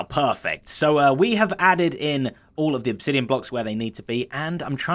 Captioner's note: normal voice